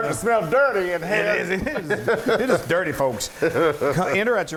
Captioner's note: laugh